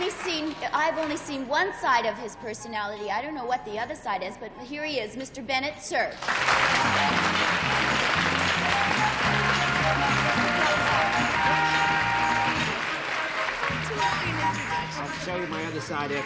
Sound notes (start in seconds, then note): 8.4 applause